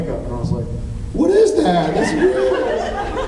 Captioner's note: laughs